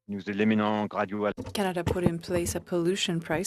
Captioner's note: speaking FRENCH